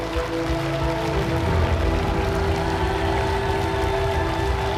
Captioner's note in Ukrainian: оплески